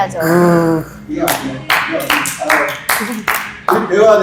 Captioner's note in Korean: 자동박수